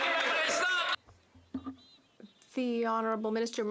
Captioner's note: applause